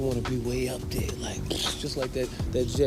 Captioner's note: mimics explosion